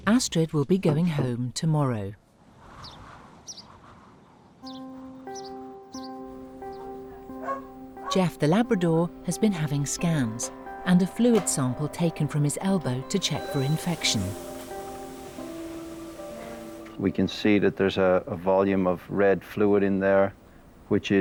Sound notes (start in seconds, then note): 2.7 birds chirping; 2.7 wind whistling; 5.0 gentle anxious music; 6.8 dog barking; 14.9 gentle anxious music